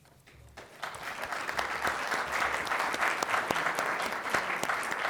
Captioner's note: applause